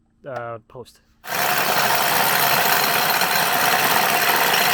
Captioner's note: drilling